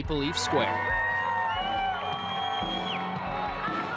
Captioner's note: cheering